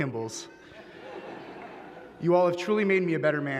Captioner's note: laughter